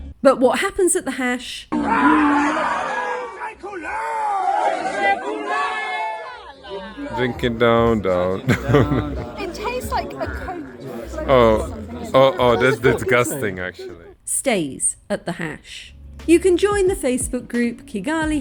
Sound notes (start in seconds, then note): 1.7 loud roaring; 8.8 laughing